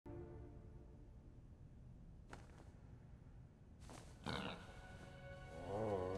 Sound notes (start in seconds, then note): 2.2 cloth flutters; 4.2 pig snorts, grunting